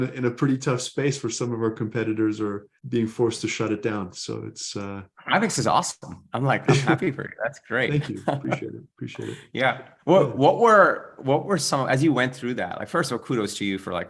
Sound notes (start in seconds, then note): 7.8 chuckles